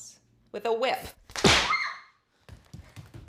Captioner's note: whip cracks; Bailey screams; footsteps pattering